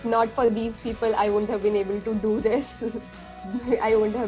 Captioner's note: laughs